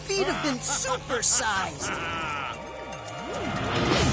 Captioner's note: evil laugh